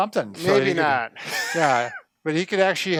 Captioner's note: laughing